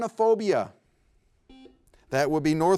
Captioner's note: buzzer beeps